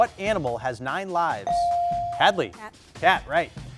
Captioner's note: buzzer dings